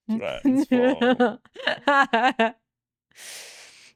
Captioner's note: laughing